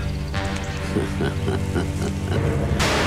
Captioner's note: Laughs